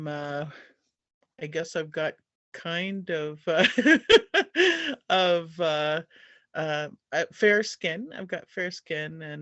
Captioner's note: laugh